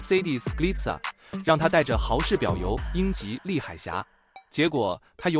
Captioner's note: Hauch